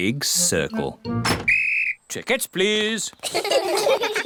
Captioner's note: blows whistle; all laugh